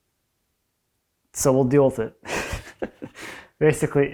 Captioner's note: chuckles